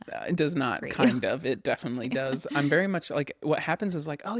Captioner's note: laughs